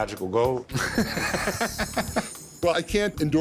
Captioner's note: laughter